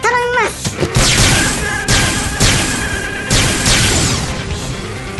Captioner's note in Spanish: Dominic grita